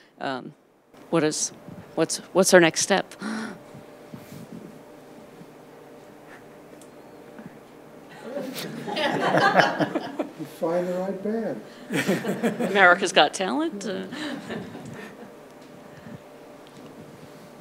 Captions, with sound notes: "What's our next step?" (participants laugh) - Find the right band. - "America's Got Talent"?